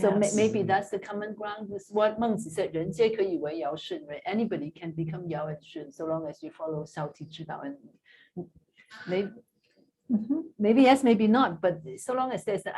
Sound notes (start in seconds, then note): 3.0 non-english speech; 6.9 non-english